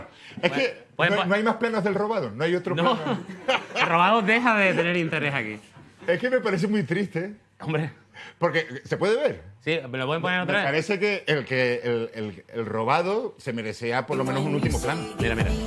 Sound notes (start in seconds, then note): 2.8 both laugh